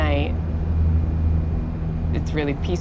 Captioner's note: rumble of engine